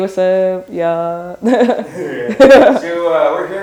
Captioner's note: laughing